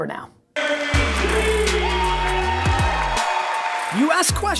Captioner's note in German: Fröhliche Musik; Publikum jubeln